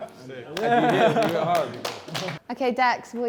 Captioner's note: laughing; clapping